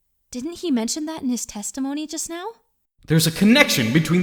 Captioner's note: whispering